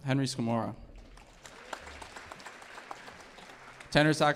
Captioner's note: audience applauding